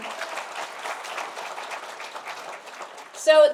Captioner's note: applause